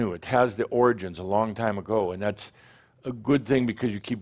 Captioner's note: none